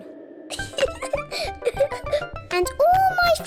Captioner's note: laughs